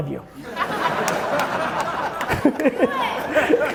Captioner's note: audience laughing